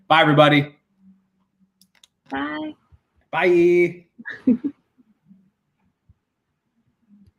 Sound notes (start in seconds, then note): 4.2 laughs